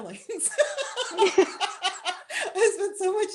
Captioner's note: laughter